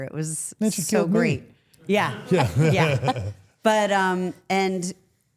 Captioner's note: everyone laughs